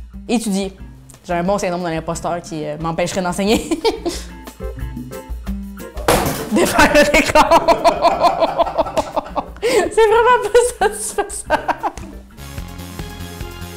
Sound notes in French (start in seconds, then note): 6.5 rires